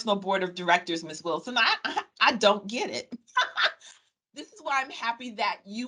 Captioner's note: laughing